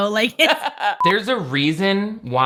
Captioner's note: laughs